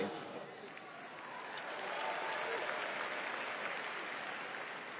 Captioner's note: applause